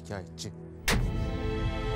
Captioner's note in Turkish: Tokat sesi